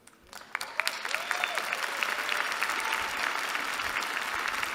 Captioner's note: applause